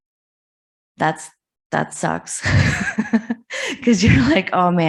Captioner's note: laughs